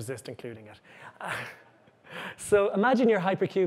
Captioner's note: chuckles